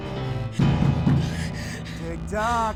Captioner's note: knocking